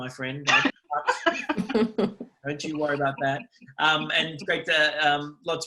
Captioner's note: laughs